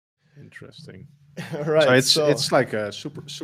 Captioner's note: laughs